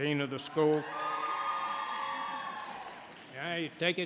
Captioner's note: audience cheering and applauding